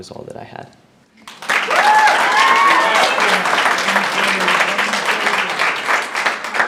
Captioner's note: audience cheers loudly and applauds